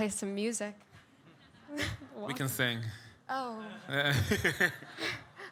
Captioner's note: laughs